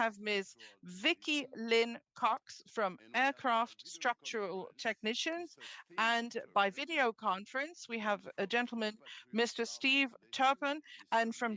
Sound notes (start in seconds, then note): 3.4 speaking French